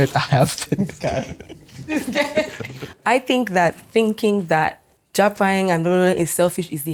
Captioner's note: laughs